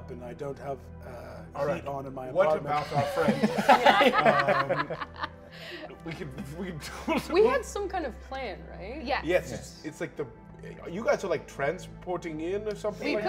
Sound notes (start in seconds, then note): 2.7 laughing